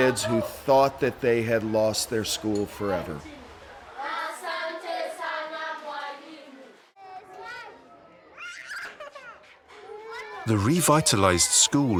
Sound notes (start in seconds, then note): 4.4 students speaking in non-English; 8.3 child squills